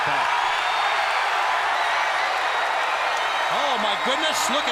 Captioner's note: crowd cheering